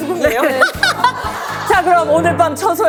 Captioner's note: hahaha